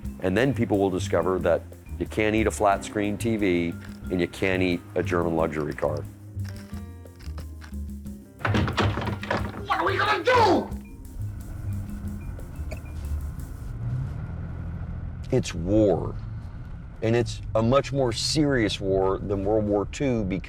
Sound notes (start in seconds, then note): 8.4 tries to open door; 11.2 engine revving silently